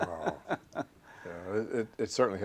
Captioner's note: laughter